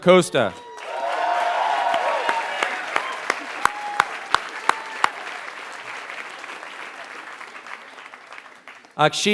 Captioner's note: applause